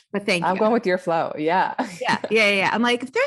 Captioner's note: laughs